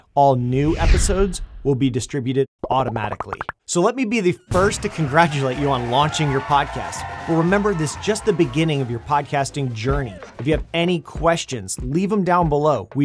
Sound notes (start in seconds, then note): 6.9 crowd cheering